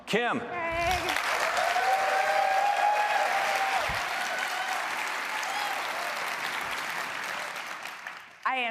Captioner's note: applause